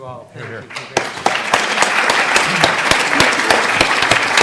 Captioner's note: audience clapping